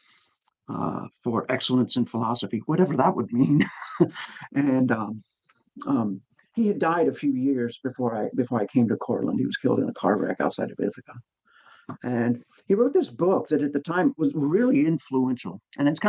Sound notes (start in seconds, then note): 3.4 laughing